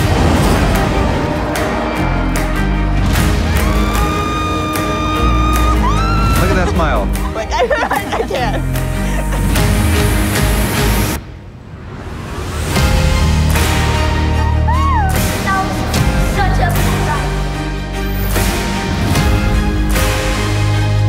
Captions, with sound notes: (upbeat music) (Mom screams) - Look at that smile. (upbeat music) - That was such a cool ride. (upbeat music)